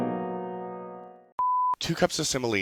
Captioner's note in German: piep